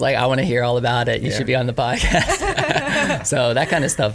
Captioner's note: laughs